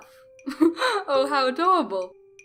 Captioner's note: chuckle